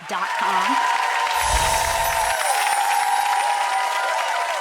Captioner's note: audience applauds